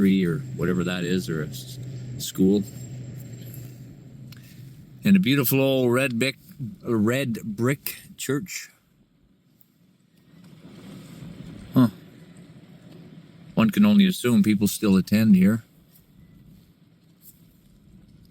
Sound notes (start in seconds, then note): 10.2 car engine roaring